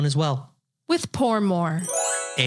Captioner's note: magical sound